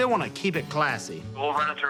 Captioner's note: on phone